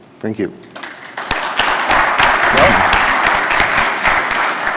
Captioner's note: applause